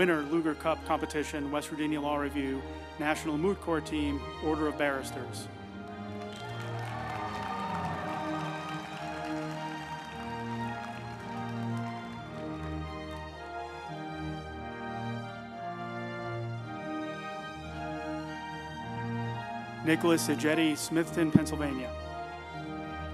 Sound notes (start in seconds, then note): 5.8 group applauding; 5.8 uplifting music